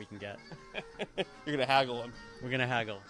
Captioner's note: chuckling